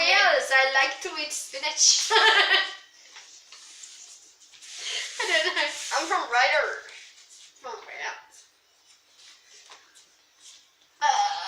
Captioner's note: bad Welsh accent; laughs